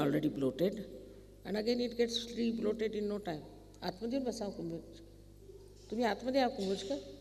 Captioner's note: speaking in Marathi…